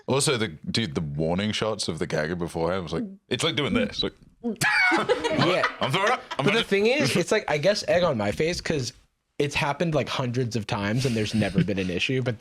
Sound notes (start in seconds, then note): 4.5 laughs